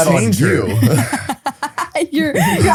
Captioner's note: laughs